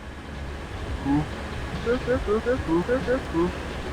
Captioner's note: father beeping